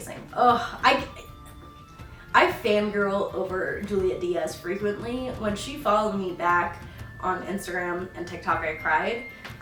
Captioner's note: stammers